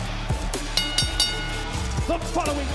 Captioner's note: bell rings